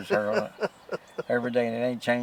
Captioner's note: laughs